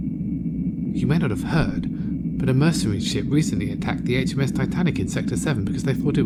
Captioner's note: whispering